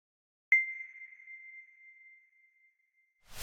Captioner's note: ding